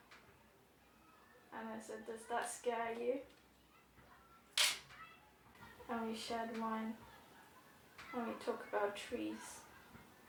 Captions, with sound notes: and I said, "does that scare you?" [jewellery clink] and we shared wine, and we talk about trees,